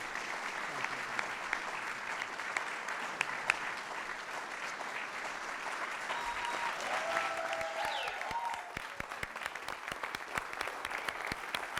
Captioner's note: applause